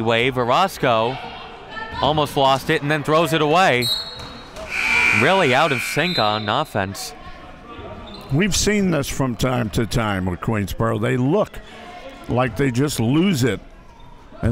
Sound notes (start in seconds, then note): 4.6 referee blows whistle; 4.7 clock buzzes; 7.1 referee blows whistle